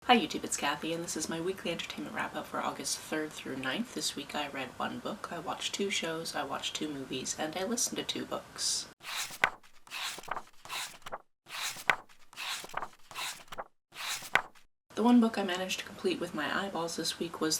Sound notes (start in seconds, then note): 9.0 pages turning